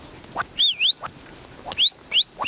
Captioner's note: shepherd whistles